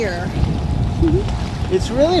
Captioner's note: giggles